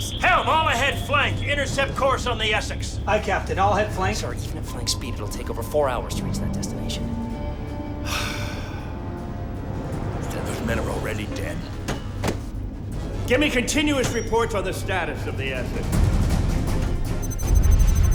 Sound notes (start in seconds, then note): 8.0 sighs